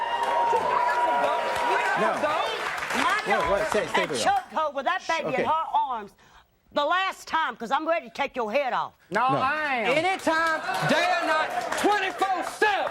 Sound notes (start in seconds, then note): 0.0 audience cheering; 9.9 audience applauding